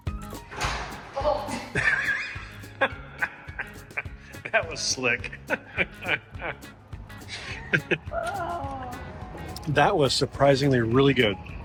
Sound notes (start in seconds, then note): 0.5 doorknob rattles; 0.8 groans; 4.4 laughing